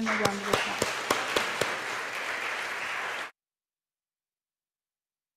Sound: audience applauding

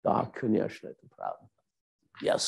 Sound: speaking German

